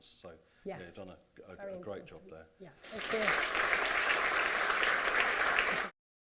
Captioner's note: applause